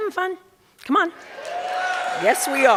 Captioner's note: cheers and applause